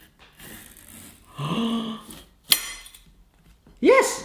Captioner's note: gasps